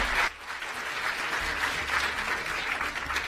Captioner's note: applause